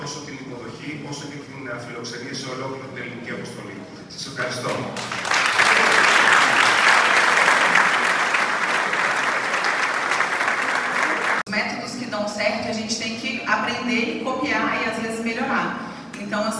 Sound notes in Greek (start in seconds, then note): 4.6 χειροκρότημα